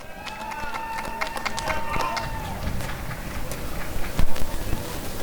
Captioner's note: applause and cheering